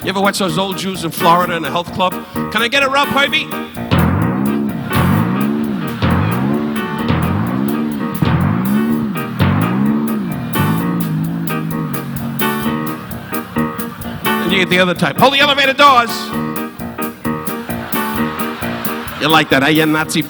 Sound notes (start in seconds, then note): 0.0 Don imitates sandals squeaking; 3.9 spring whooshing; 4.2 audience laughing